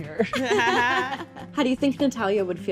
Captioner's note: groups laughs